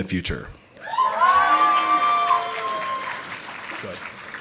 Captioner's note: audience applauding